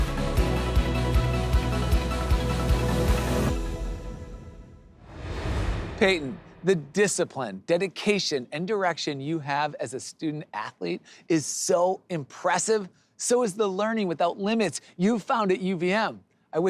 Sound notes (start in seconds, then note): 0.0 upbeat music; 4.8 air whooshes